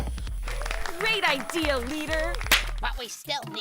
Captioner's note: applause